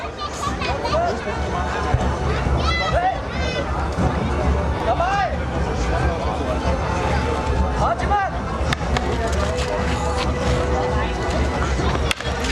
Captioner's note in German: Kampfgeräusche